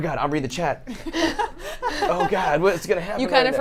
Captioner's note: laughs